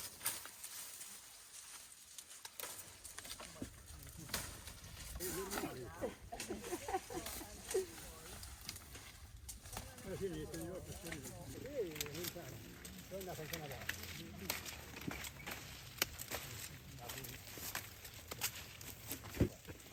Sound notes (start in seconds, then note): 5.9 laughs